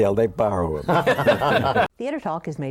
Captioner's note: laughter